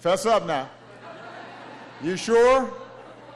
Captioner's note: laughter